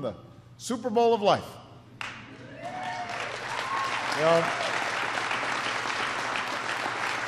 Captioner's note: applause